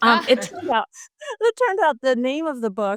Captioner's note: laughs